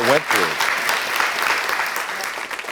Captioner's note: audience applauding